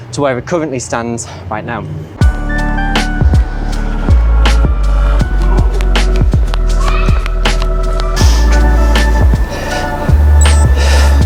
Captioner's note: gasp